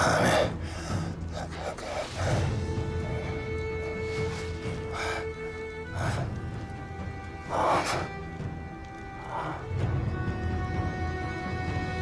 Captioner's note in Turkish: Nefes sesleri